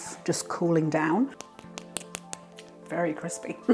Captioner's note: crispy tapping